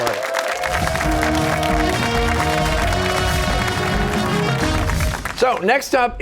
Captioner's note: cheers and applause